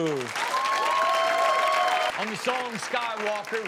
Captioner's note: audience applauds